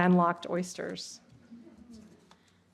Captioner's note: laughter